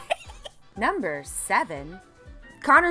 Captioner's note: laughs